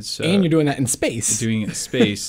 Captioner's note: laughs